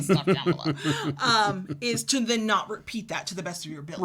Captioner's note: laughs